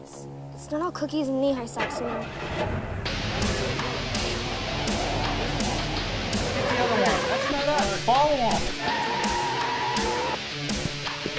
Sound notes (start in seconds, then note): 1.9 engine turns over; 8.5 upbeat rock music